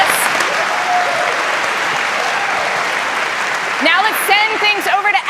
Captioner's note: cheers and applause